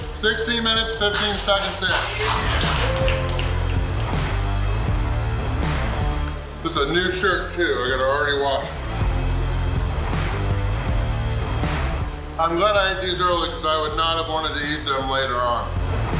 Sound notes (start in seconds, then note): 1.1 crowd cheering and clapping; 4.2 heavy rock music playing; 8.9 heavy rock music playing; 15.5 heavy rock music playing